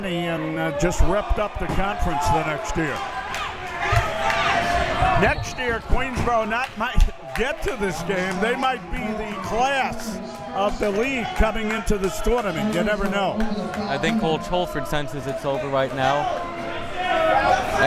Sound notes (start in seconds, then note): 2.8 crowd members shouting